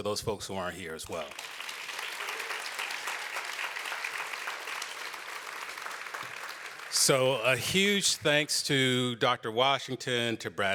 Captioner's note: applause